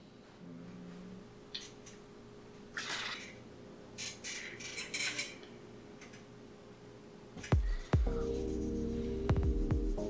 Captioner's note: groans and grumbles